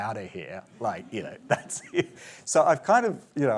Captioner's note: chuckles